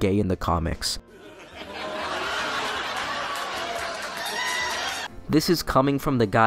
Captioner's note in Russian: шум усмехающейся толпы